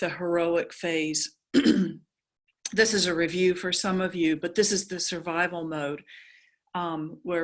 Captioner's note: cough